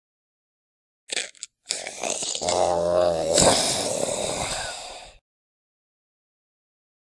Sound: sound of zombie

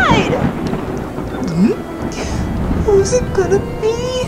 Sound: Scooby gulps

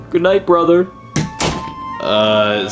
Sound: door thuds

